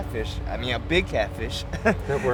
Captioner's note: chuckles